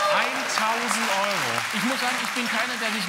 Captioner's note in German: Applaus